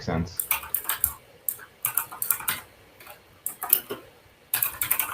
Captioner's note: keyboard clacks